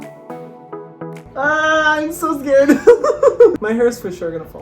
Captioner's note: dance music play; laughs